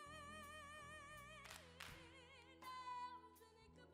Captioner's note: claps